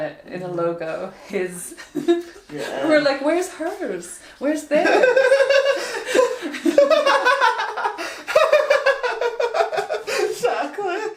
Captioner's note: both laugh